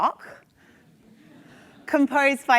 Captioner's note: attendees laugh